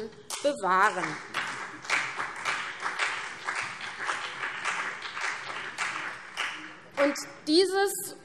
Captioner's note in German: Beifall CDU und vereinzelt BÜNDNIS 90/DIE GRÜNEN